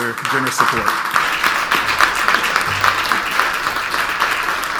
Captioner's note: audience applauds